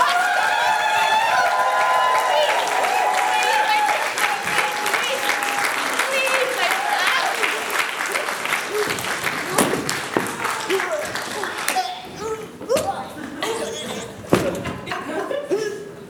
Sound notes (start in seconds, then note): 2.9 applause